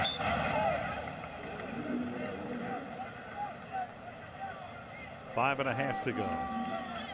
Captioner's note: whistle blows